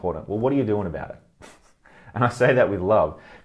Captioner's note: laughs